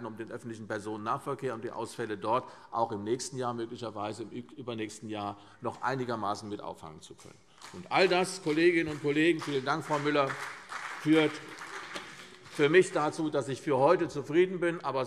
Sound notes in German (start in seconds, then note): 7.6 Beifall CDU und BÜNDNIS 90/DIE GRÜNEN